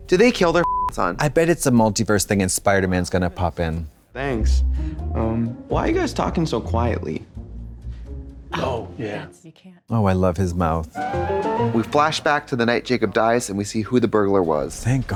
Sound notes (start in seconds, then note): 11.1 bright chime